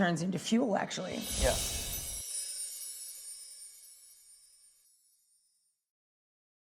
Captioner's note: chiming